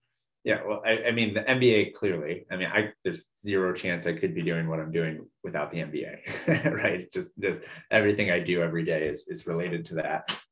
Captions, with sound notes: Yeah, well, I mean the MBA clearly, I mean, there's zero chance I could be doing what I'm doing without the MBA, [LAUGH], right? Just everything I do everyday is related to that.